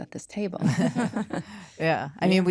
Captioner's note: laughter